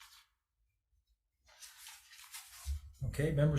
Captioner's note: papers rustling